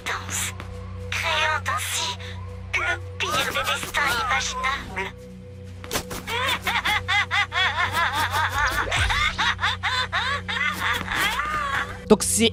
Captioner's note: laughs